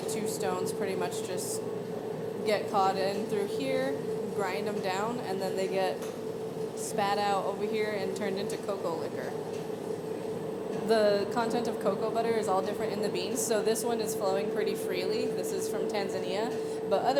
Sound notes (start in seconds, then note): none